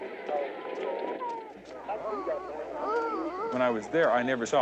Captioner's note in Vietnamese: Tiếng khóc